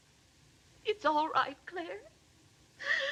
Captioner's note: sobs